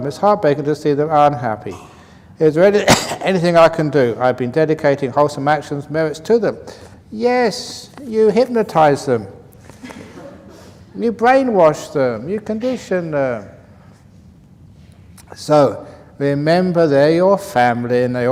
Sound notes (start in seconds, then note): 9.7 laughs